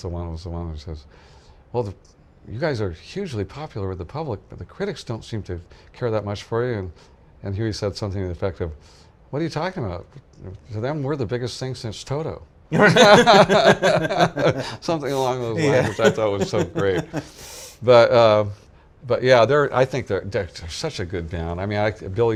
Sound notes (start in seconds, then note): 12.7 laughing